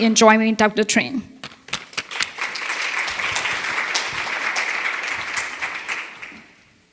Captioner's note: applause